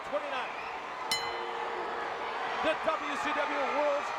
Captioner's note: bell rings